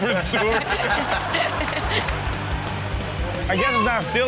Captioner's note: all laugh